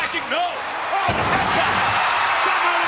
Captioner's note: crowd cheering drowns out Vince